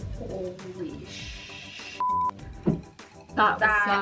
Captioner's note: beep